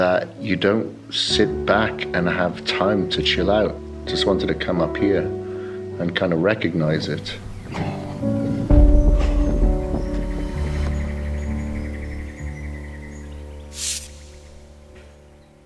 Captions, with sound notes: that you don't sit back and have time to chill out. Just wanted to come up here and kind of recognize it. (soft music) (birds chirping)